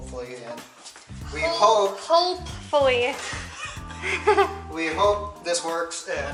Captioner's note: laughter